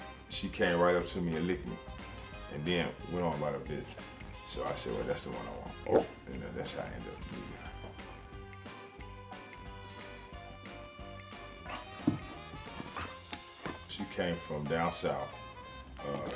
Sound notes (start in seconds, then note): 5.4 hippo barks; 8.6 lively upbeat music